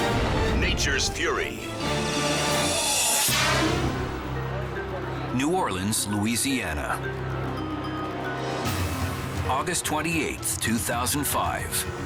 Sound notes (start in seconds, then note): 3.0 air whooshes